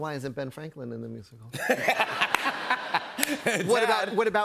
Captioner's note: laughter